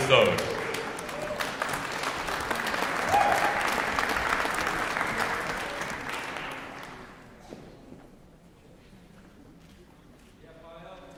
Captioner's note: applause